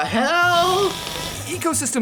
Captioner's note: Dunk farts